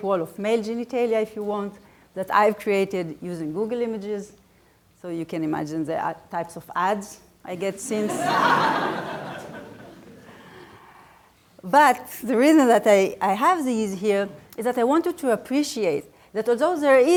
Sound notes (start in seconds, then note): 7.8 laughter